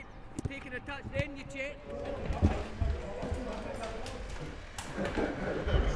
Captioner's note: football players chatting